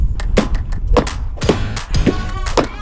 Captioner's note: bright music continues; wall piece claps continue